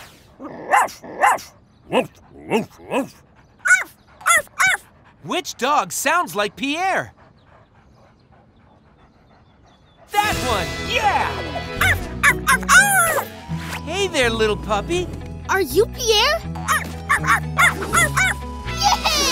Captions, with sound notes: [barking] Which dog sounds like Pierre? That one! Yeah! [barking] Hey there, little puppy. Are you Pierre? [barking] Yeah-heh!